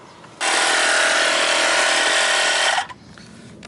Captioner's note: air compressor rumbles